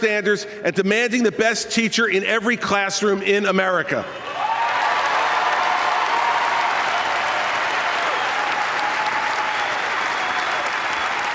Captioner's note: applause